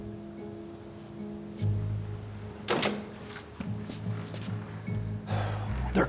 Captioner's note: door opens